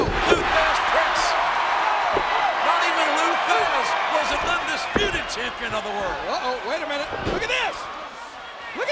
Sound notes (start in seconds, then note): 1.7 audience cheers